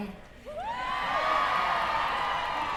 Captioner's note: cheering